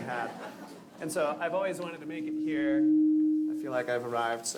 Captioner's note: laughter